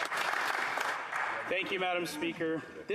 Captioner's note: some Applause